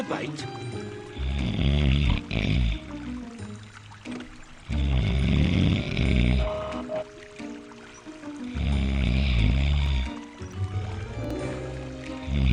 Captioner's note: snoring